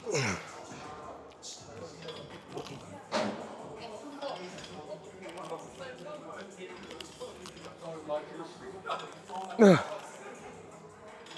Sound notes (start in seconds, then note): 6.6 grunts